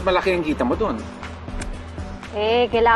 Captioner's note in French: clicks tongue